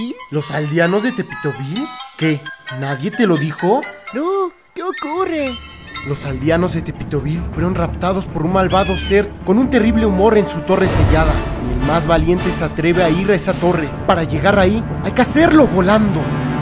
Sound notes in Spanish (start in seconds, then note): 10.8 truenos